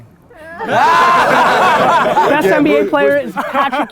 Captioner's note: all laughing